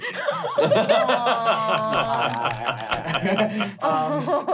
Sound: laughing

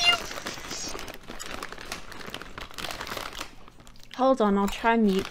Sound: loud crisp chewing

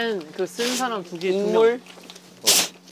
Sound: blowing

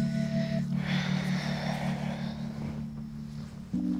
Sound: exhales

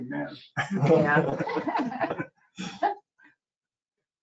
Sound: laughing

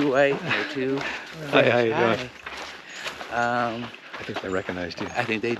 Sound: chuckling

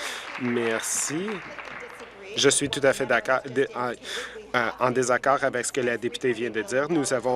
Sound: applause

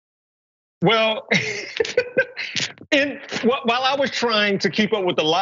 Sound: laugh

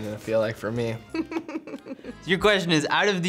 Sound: laughs

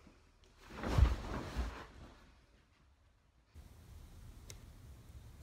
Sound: soft thudding

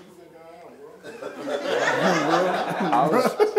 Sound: laughing

